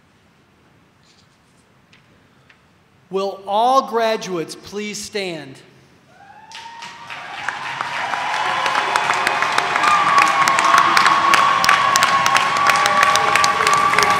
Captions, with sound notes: - Will all graduates please stand? (audience cheering) (audience applauding)